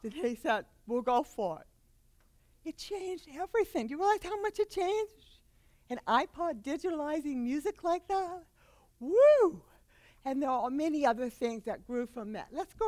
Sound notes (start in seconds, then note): none